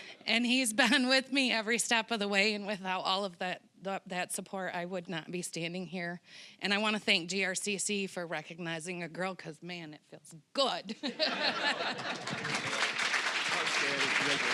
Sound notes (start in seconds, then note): 10.9 all laughing; 11.8 applause